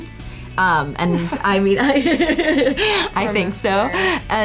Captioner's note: laughing